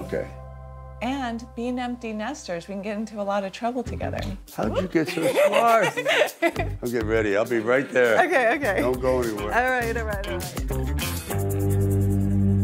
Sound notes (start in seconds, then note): 4.7 laughing